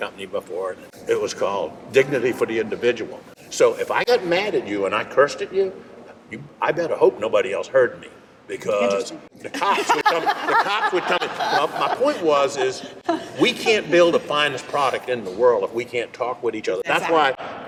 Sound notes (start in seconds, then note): 9.5 laughing